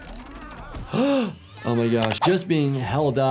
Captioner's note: gasps